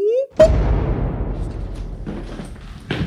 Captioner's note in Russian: звук взрыва